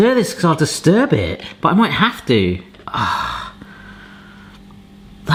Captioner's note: sighing